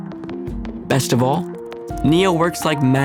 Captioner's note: keystrokes